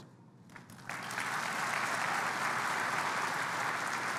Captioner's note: applause